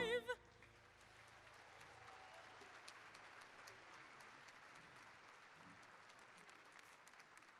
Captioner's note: applause